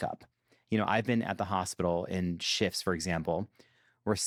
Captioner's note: none